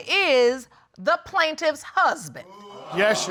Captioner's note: audience exclaiming